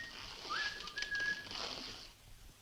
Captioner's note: none